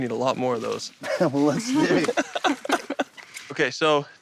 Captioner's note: laughter